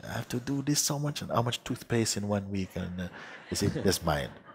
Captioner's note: laughter